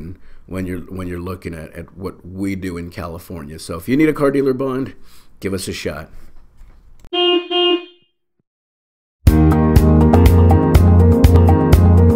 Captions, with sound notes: when you're looking at what we do in California. So if you need a car dealer bond, give us a shot. (car honking) (upbeat music)